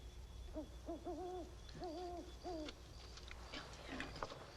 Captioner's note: owl hooting